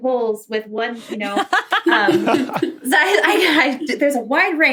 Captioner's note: group laughing